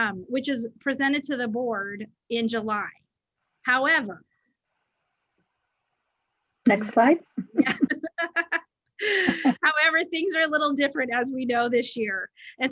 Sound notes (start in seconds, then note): 7.4 giggles